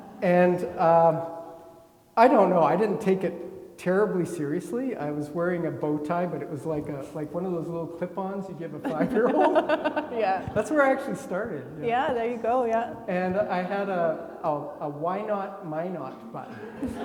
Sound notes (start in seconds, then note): 8.8 laughing